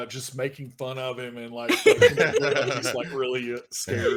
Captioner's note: laughing